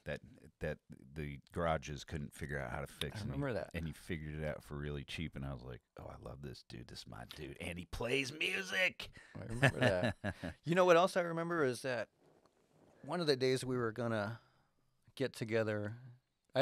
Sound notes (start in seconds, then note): 9.5 laughs